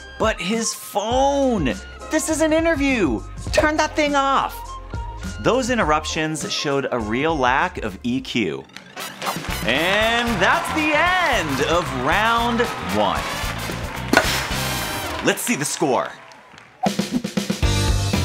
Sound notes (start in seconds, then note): 9.2 crowd cheering; 13.2 bat cracks